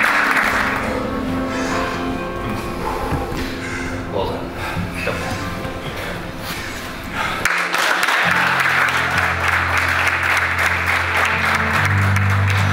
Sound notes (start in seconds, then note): 2.8 exhaling deeply; 7.4 spectators applauding; 7.9 warm music